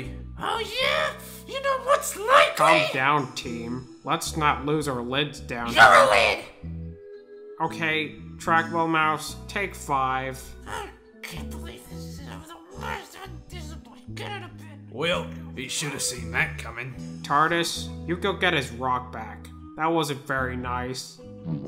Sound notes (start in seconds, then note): 13.0 trackball Murmurs; 21.4 boowomp